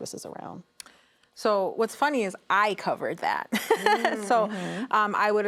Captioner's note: laughs